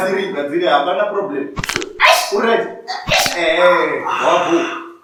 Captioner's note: bones cracking